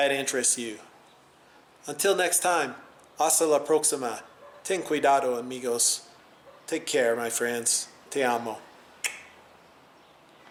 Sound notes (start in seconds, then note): 9.0 kissing sound